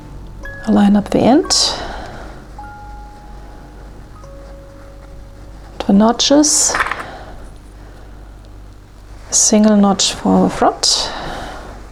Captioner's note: clips rustling